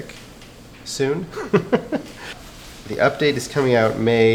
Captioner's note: laughs